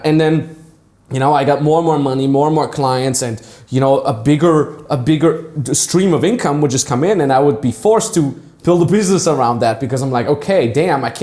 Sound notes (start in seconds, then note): none